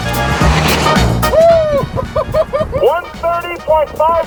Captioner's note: laughs